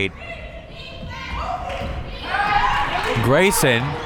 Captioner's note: crowd members chanting